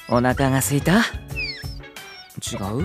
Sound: whine

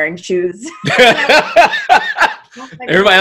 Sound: laughs

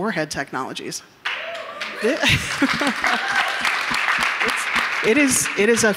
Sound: audience members cheering, clapping

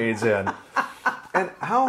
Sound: laughing

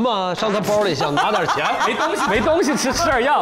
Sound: haHaHaHa

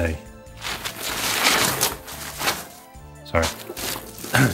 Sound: bubble wrap tearing

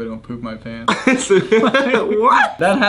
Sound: laughs

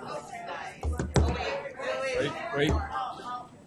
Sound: voiceover

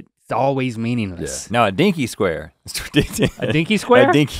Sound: laughs

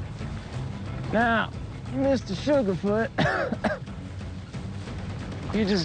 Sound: coughs

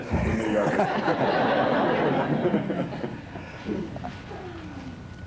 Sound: laughter

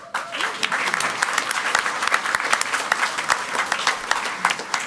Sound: crowd clapping

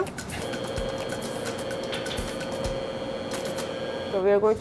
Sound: mixer whirring

